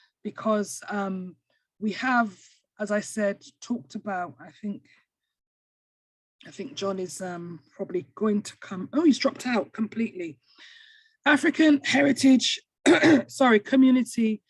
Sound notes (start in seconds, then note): 12.9 clears throat